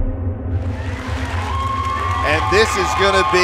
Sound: audience applauding

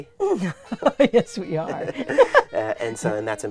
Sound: laughs

